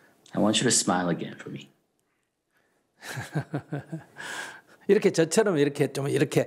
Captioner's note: Sunim laughter